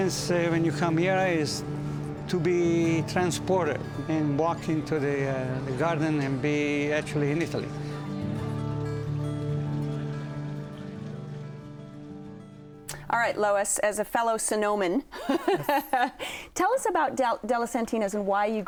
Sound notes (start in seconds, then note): 13.5 laughing